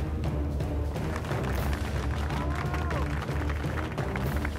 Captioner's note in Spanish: aplausos